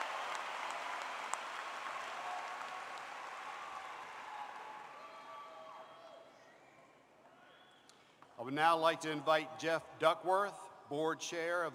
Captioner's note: applause